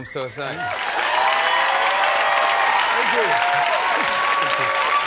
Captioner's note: cheers and applause